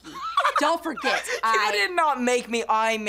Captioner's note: laughs